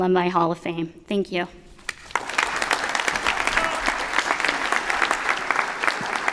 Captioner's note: applause